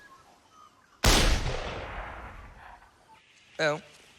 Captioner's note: gunshot echoes